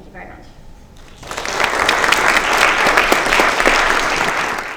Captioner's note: applause